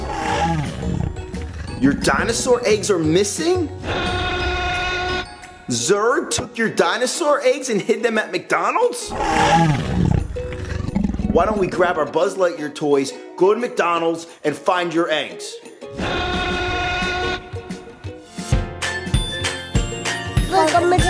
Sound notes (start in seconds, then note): 0.0 dinosaur grumbling; 3.8 dinosaur rawr; 9.0 dinosaur rawr; 16.0 dinosaur rawr; 18.5 upbeat music